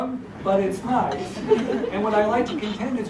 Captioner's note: laugh